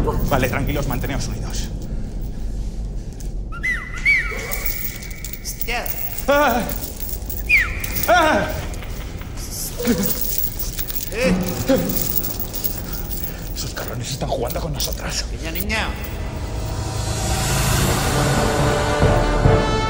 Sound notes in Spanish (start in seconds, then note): 3.4 Silbidos; 7.4 Silbidos; 8.5 Risas